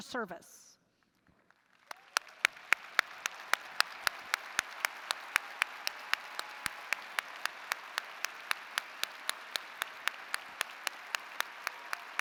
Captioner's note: applause